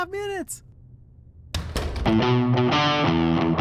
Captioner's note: door closes